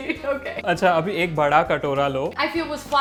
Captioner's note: speaking in Hindi